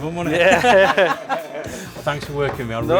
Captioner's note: all laugh